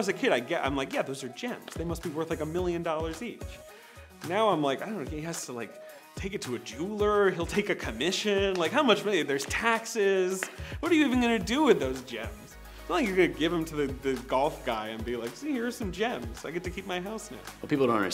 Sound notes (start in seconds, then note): none